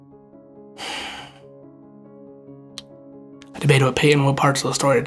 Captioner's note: sighs